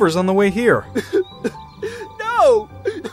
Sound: sobs

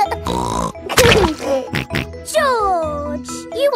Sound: laughs and snorts

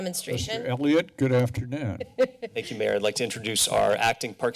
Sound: laughter

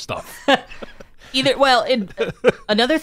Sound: laughs

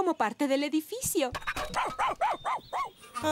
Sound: panting & Barking

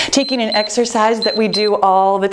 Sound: timer beeps

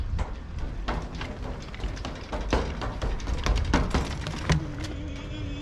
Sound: footsteps; making a race car noise

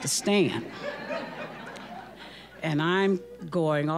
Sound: audience laughing

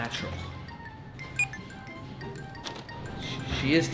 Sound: scanner clicks

